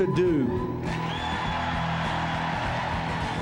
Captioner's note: cheering